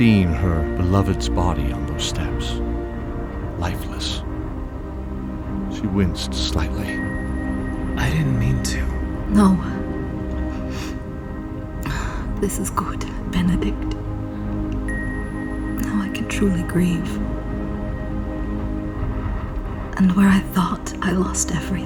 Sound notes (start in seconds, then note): 10.2 sniff; 13.4 chuckle